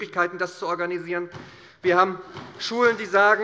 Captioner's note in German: Beifall bei der SPD